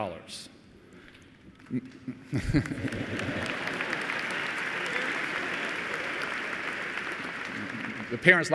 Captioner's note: applause